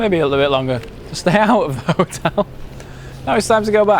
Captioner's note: laughs